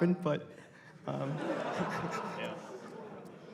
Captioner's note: laughter